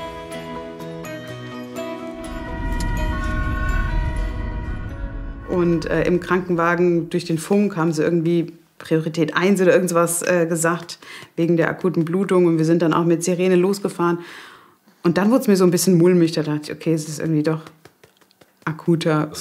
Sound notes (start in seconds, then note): 2.0 siren